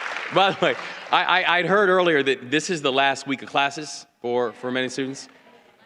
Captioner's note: applause